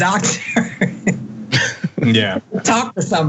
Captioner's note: laugh